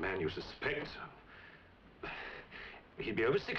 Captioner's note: sighs